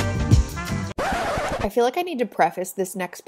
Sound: record scratches

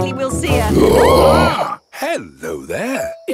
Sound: roaring, screaming

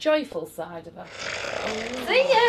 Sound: growls

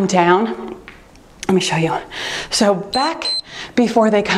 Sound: timer beeps

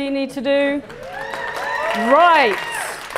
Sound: applause

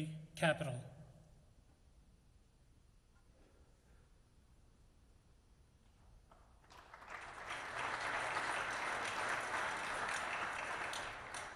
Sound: applause

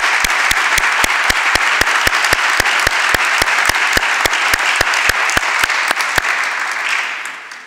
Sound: applause continues

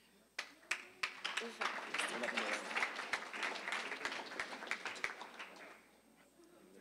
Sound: applause

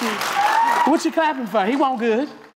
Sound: applause

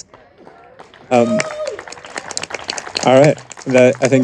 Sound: audience applauding and cheering

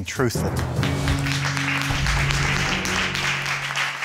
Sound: audience applauds

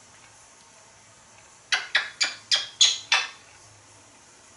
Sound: kissing sounds

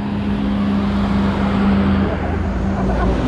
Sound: engines whirring; laughing

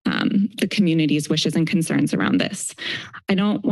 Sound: inhales

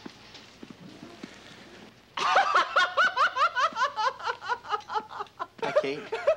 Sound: laughing

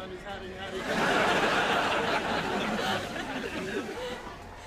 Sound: audience laughing

